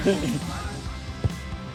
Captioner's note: laughing; upbeat music